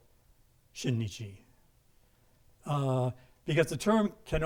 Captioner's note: speaking in a foreign language